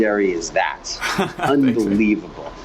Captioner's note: laughs